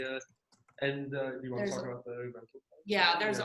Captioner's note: murmurs